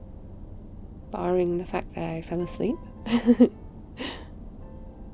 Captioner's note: laughs